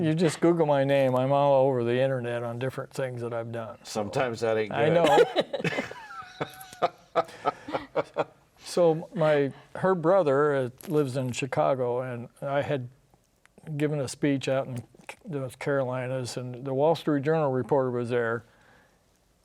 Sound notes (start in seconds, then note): 4.9 laughs